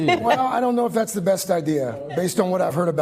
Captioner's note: laughter